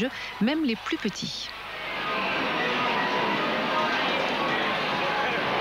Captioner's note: applause